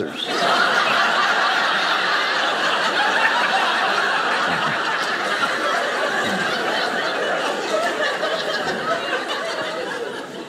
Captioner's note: audience laughing